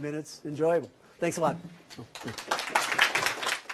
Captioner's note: applause